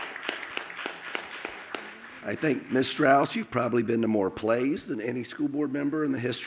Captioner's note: applause